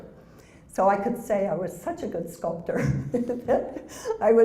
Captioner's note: laugh